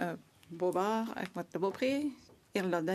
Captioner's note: speaking French